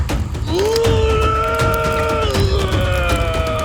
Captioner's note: Og growling